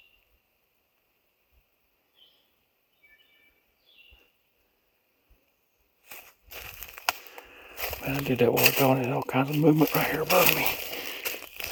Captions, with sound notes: (leaves crunching) Man, I did think that was gonna help, all kinds of movement right here above me.